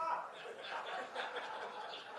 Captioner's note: laughter